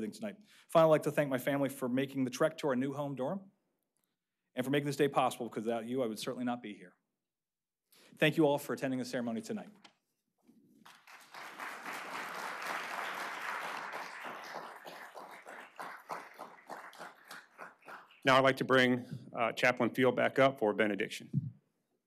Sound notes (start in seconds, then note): 15.2 applause